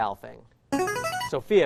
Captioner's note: chiming